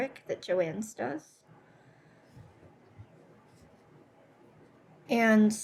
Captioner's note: silence